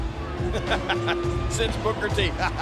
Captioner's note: Jerry laughs